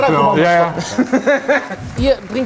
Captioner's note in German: Lachen